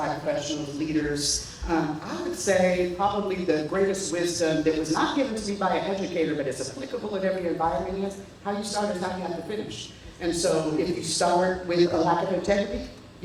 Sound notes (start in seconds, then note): none